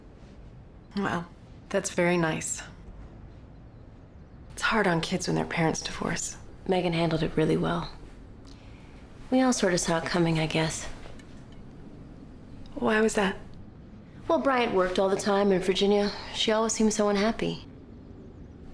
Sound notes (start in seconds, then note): none